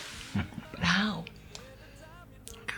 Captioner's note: chuckles